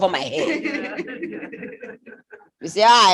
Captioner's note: laughter